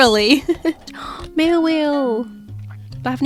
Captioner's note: laughs; gasps